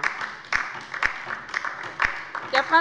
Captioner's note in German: Beifall bei der LINKEN